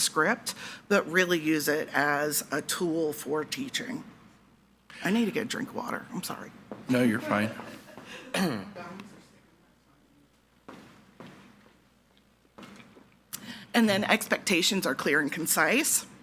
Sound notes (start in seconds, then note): 7.1 laughing; 8.1 attendee clears throat